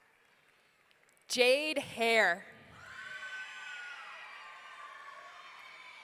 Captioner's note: audience cheering